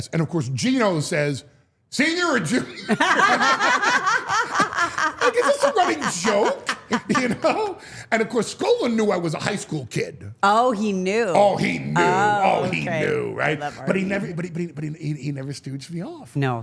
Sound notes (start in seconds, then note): 2.6 Steph and Elyse laugh